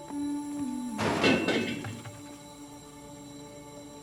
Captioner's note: ethereal music playing; wheel clattering